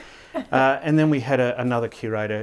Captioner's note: chuckling